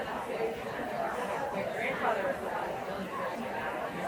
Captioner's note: people chattering